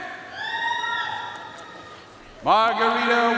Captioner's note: audience cheering and applauding